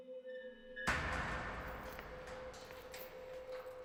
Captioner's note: eerie music; door clanking; footsteps tapping